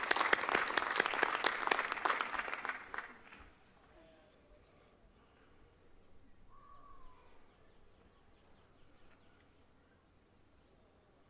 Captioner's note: applause